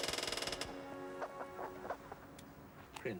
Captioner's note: pigeons cooing